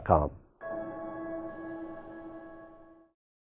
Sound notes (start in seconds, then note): 0.6 chiming